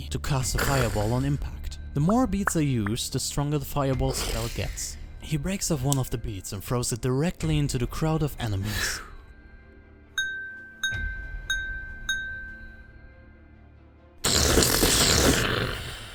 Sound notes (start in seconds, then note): 10.2 clanging sounds; 14.3 explosion sounds